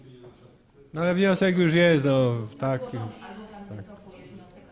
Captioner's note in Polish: głosy z sali